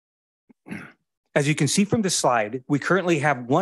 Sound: clears throat

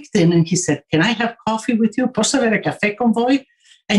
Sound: speaking in Italian

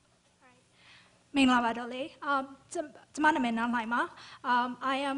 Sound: non-english speech

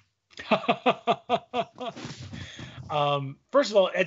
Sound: laughing

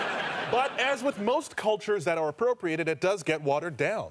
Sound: audience laughter

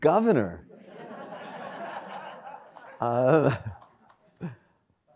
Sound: audience laughs

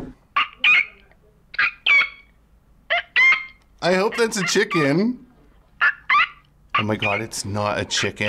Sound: animal squeaks

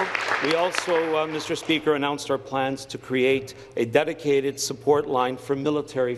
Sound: applause

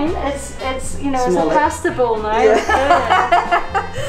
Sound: laughing

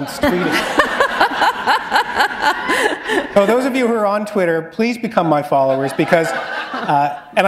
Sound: laughter

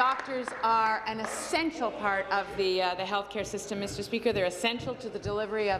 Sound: applause

